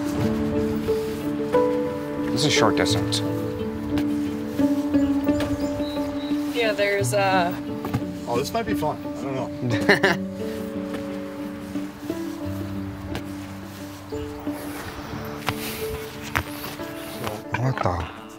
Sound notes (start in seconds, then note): 9.6 laughs